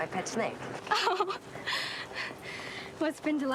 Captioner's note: laughs